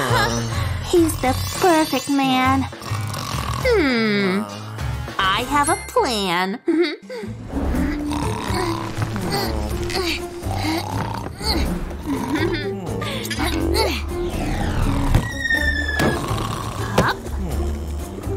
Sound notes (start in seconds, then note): 7.6 groans